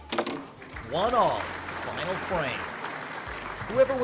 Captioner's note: crowd claps